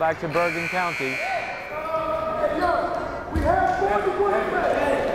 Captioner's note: timer buzzes